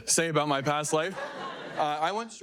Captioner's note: audience laughing